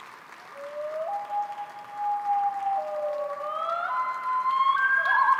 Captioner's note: loon call plays